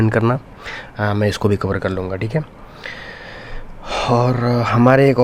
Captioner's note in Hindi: अचानक ज़ोर से सांस लेने की आवाज़